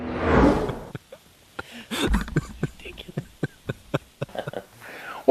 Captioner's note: laughter